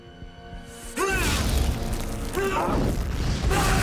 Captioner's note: grunting; yells